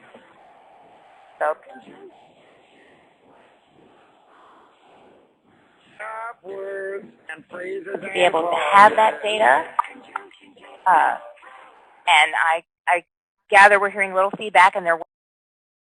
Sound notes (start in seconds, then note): 0.0 audio gap